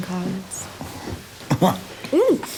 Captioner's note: chuckling